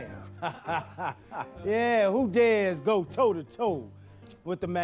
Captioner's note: laughing